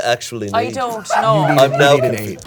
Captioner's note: crew laughing